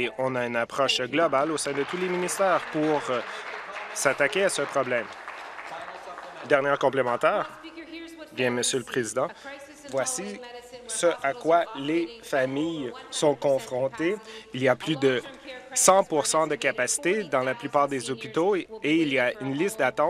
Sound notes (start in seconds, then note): 5.8 applause